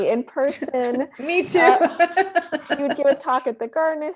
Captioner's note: laughs